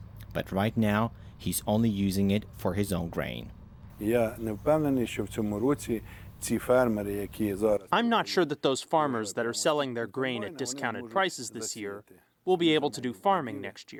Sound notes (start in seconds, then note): 5.8 through translator